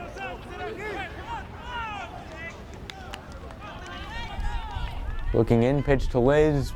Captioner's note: players yelling in foreign language